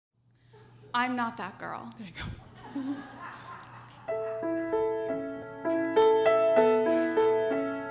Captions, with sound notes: - I'm not that girl. (audience laughs) (melancholic piano music)